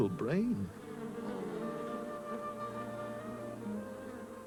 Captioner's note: bees buzzing